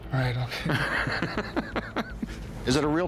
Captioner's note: laughs